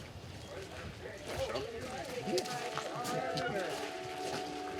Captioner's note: hunters chattering